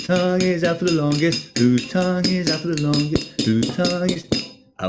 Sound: rhythmically taps glass; tap

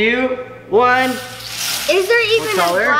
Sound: balls rattling

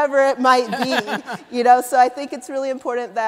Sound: laughter

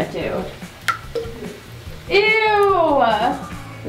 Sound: dog food plopping

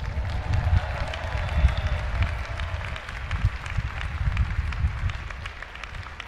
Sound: audience applauding and cheering

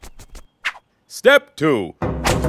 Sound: whip snaps

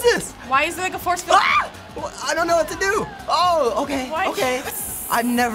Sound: shrieks

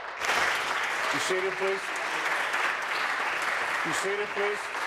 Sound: applause

